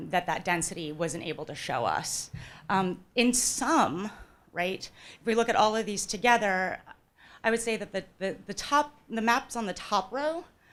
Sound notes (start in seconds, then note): none